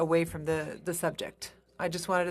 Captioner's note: speaking in French